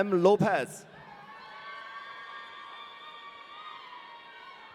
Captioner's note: audience cheering